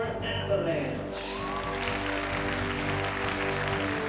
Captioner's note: applause